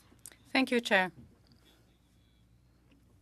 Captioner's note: speaking French